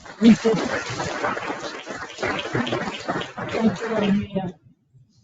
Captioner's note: audience applauding